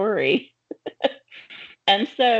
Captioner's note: chuckling